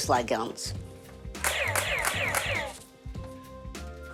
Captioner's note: bang, bang, bang